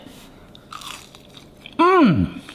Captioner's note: chicken crunching